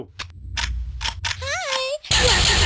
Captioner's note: high pitched voice